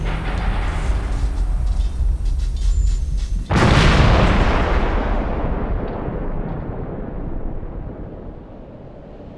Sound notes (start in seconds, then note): 3.4 explosion